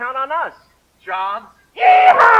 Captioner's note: spoken, distaste